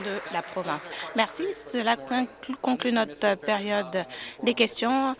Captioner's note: applause